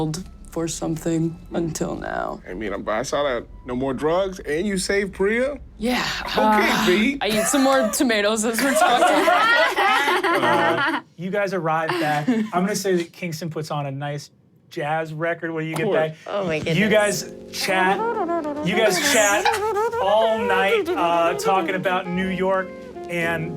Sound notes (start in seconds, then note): 7.3 sighs; 10.3 everyone laughs; 17.9 starts mimicking a saxophone